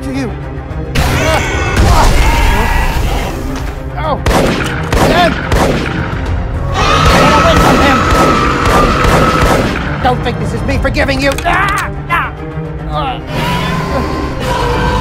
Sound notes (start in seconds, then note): 1.6 Scorpius growls; 4.2 gun shots; 7.0 shots fired